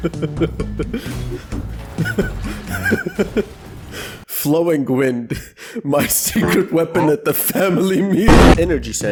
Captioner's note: laughing